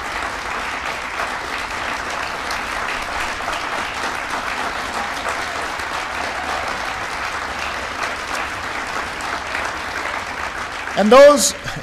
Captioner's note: applause